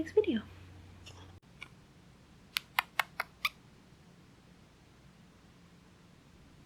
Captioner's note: kissing to get her attention